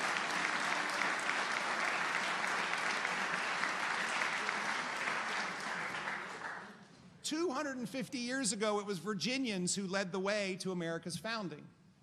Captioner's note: applause